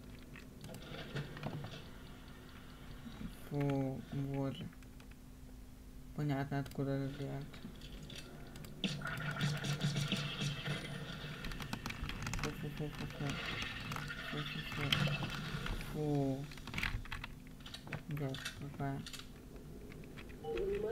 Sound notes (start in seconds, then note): 9.8 explosions; 10.7 gunshots